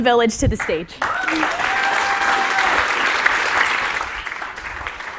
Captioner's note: applause